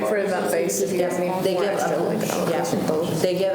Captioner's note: group talking